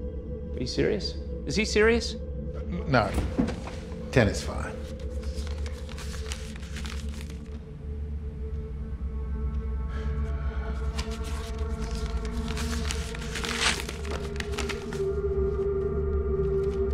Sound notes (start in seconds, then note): 9.4 sighs; 10.8 papers rustling